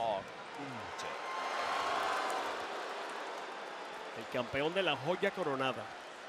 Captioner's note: applause